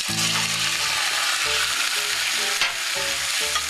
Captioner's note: sizzling sounds